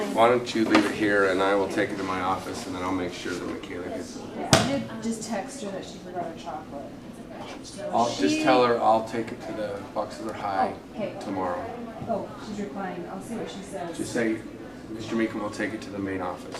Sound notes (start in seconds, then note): none